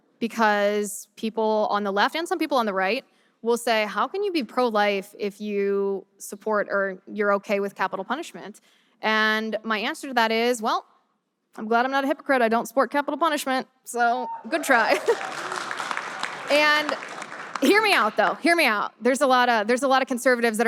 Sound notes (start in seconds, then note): 14.5 audience applause